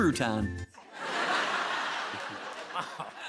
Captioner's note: laughter